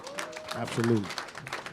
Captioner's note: applause